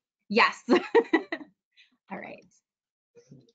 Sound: laughs

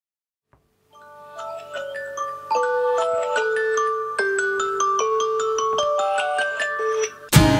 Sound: alarm clock

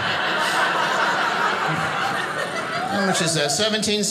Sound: audience laughing

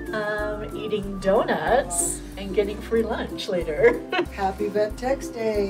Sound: laughs

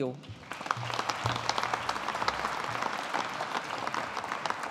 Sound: audience applauding

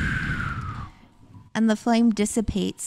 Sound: blowing

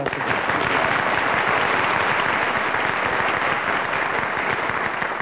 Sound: applause

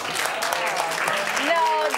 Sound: applause

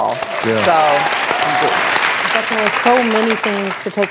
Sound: audience claps

